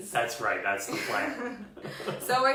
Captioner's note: laughs